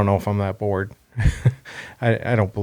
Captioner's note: laughs